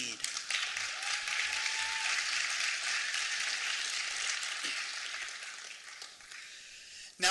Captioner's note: applause